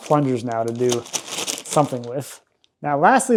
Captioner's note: plastic rustling